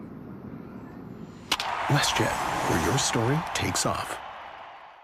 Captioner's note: baseball ing hit